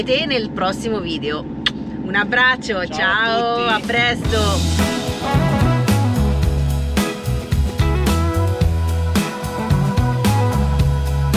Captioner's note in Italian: Applauso